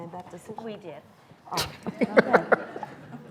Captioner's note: laughing